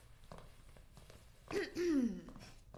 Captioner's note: schiarisce la voce